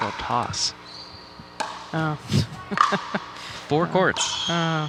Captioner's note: laughing